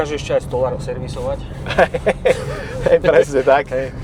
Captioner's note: laughs